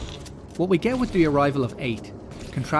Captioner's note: shotgun blast!